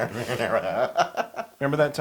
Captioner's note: laugh